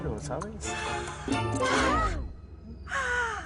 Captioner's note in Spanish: Ríe